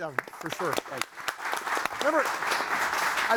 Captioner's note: audience applauding